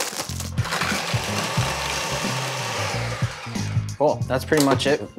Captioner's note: blender whirring